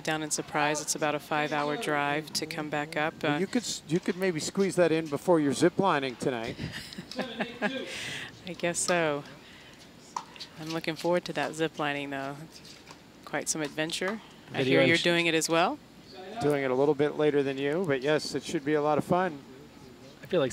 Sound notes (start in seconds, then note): 6.5 laughing